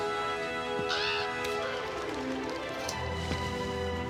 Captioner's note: crow caws